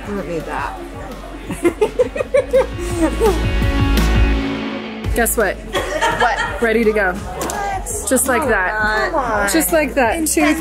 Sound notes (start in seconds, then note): 1.4 laughs